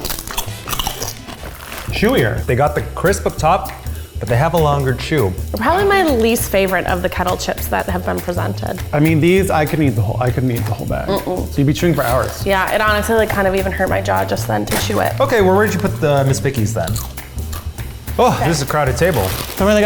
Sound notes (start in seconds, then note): 0.0 crunching